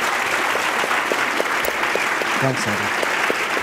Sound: applause

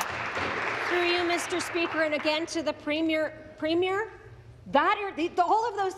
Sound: applause

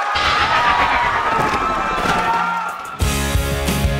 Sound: cheering; crashing to ground

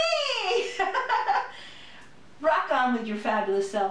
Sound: laughter

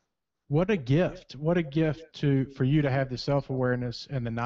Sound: voiceover

